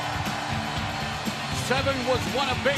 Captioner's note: crowd cheering